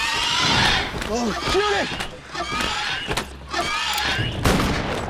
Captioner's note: loud squawk